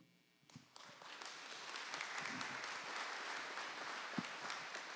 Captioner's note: audience applauding